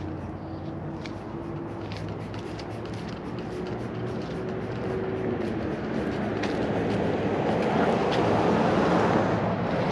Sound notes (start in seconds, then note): 2.2 spray can hissing